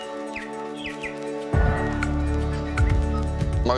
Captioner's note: birdsong